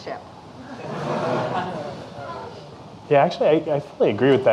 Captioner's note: audience laughing